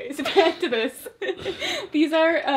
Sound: laughs

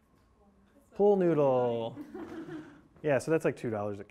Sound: class laughs

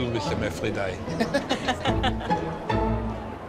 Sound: both laugh

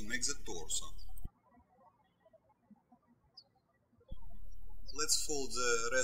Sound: birds chirping

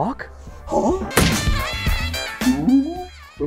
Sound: thud

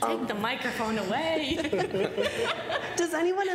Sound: laughter

